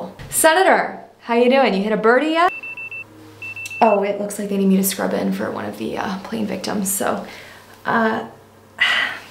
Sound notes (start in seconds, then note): 2.5 pager beeps